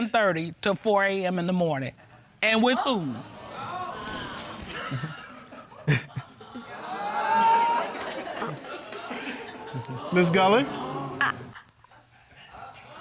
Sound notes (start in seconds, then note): 6.5 chuckles; 6.6 audience exclaiming